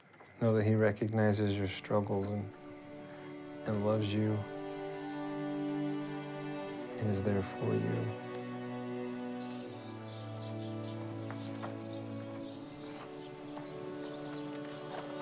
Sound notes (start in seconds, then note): none